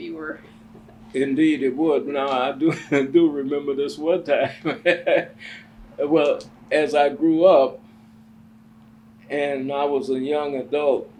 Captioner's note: laughs